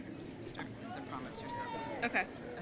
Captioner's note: faintly speaking